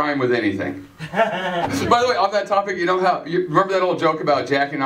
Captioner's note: laughter